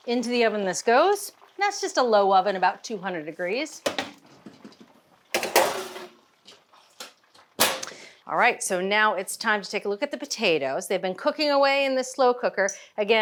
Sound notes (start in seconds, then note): 5.3 pan clattering